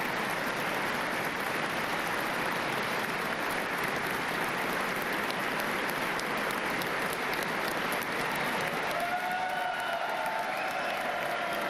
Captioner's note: applause